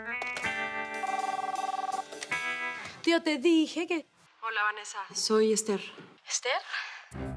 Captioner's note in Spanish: Suena el teléfono